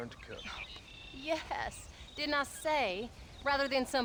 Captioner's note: laughing